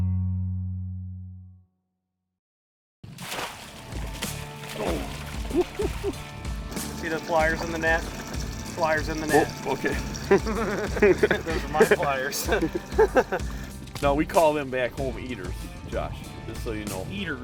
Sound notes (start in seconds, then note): 3.1 splashing; 11.2 laughing